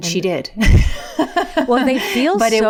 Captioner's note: laughing